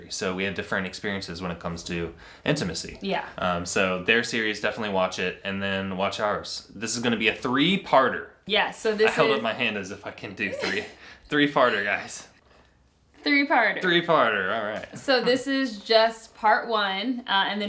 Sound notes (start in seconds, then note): 10.4 laughs